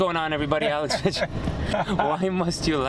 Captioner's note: laughter